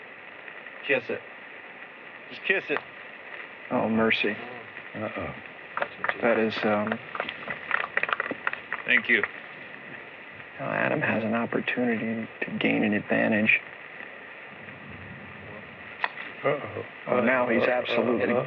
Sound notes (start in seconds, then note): 7.6 applause